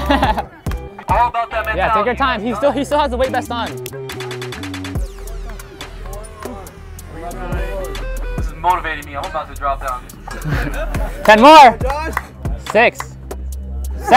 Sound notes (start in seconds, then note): 0.0 spectator laughs; 3.9 thumping hip-hop music; 5.0 people speaking indistinct; 10.2 people laugh